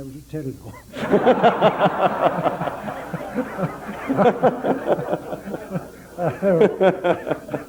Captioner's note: general laughter